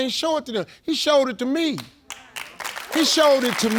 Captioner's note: audience clapping